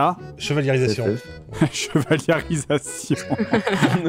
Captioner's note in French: JDG répète en pouffant